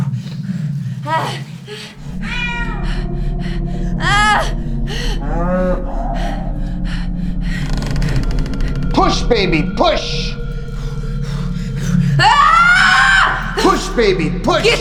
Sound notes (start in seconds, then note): 1.0 Abby grunting; 2.2 cat meowing; 4.0 Abby yells; 5.6 cow mooing; 7.4 door creaking; 12.0 Abby yells